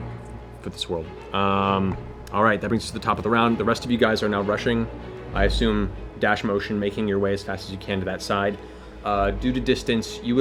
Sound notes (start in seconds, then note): none